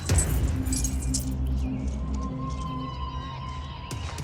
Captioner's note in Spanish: Sonido de las llaves